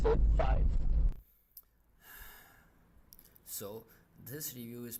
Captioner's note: sigh